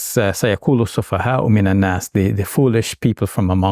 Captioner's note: speaking in Arabic